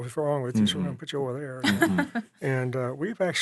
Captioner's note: laughing